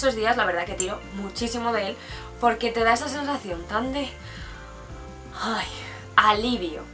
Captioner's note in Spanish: suspiro